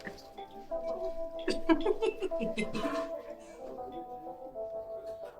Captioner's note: woman laughing